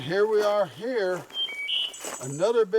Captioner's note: bird warbling